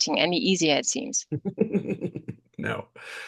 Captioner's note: laughs